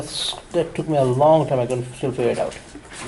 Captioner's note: voiceover